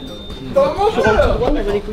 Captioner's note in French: brouhaha